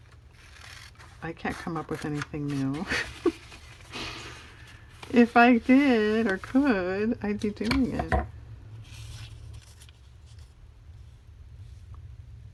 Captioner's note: laughs